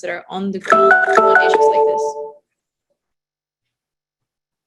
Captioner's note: alarm ringing